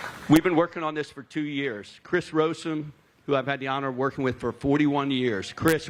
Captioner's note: applause